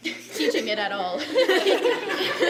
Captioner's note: laughter